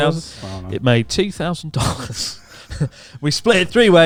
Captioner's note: chuckling